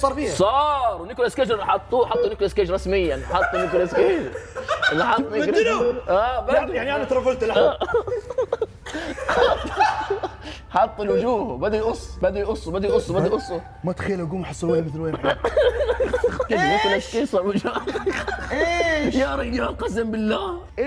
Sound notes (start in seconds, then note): 7.5 all laughing; 15.0 laughs